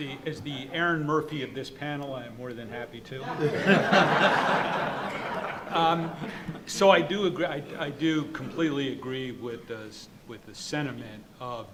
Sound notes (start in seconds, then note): 3.2 audience laughing